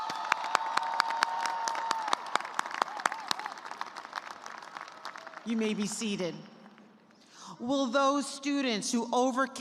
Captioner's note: cheers and applause